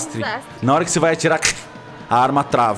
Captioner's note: click